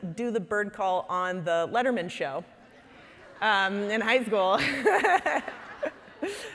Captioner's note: laughing